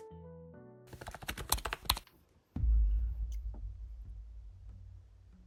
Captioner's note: keyboard clacking